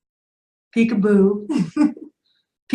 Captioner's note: laughing